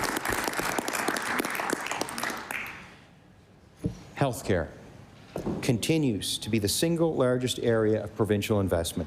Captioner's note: applause